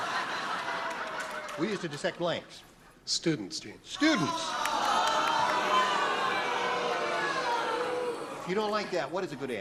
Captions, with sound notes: HAS HE BEEN WORRIED ABOUT GOOD TASTE? [LAUGHTER] WE USED TO DISSECT BLANKS. STUDENTS, GENE. STUDENTS. [BOOING]